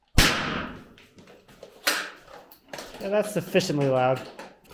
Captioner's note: banging sound